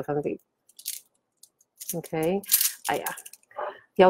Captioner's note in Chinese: 帶鏈聲